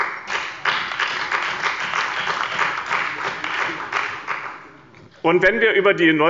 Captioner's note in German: Beifall bei dem BÜNDNIS 90/DIE GRÜNEN und der CDU